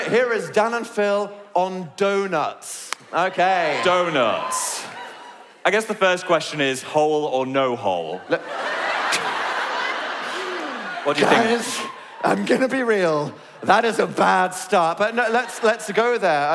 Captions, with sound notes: Here is Dan and Phil on Donuts. Okay. - Donuts. I guess the first question is hole or no hole? *audience laugh* - What do you think? Guys? I'm gonna be real. That is a bad start. But no, let's, let's go there.